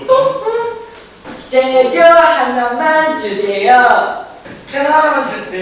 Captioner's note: in cutesy voice